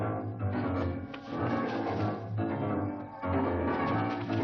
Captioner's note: heavy breathing